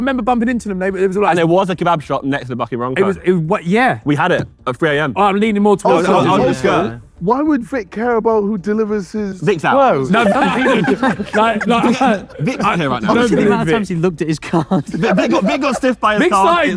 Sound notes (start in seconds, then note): 10.0 group laughs